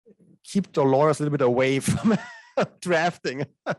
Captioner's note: laughs